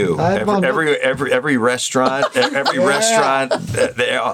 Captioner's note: Burnett laughs